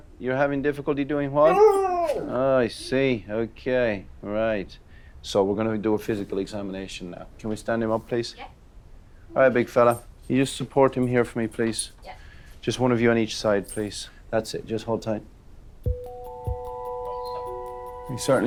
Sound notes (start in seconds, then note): 1.4 Rosco whines; 16.6 suspenseful music